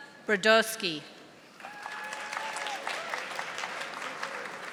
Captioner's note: audience applauding